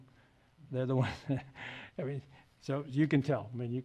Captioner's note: laughs